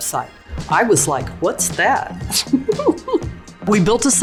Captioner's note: laughs